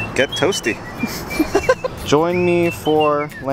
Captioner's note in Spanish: la risa